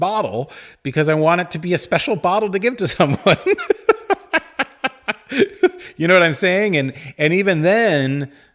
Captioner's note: laughs